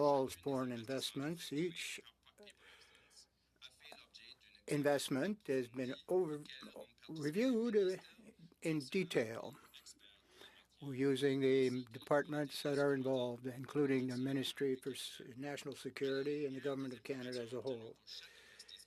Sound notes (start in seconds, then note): 4.3 speaking French